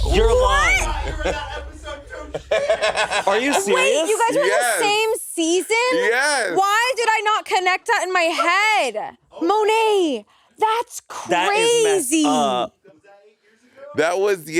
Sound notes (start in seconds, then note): 0.0 high intensity music; 0.6 Monét laughing